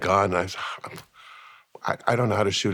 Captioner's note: sighs